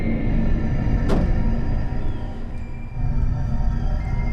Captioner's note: trunk thuds